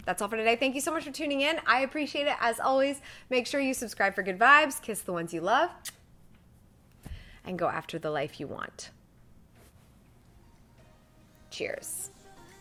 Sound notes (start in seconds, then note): 5.8 smacks kiss